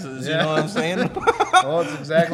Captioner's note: laughs